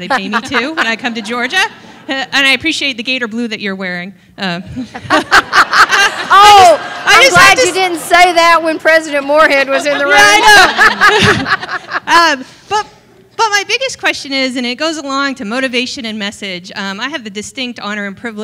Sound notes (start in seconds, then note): 4.8 laughter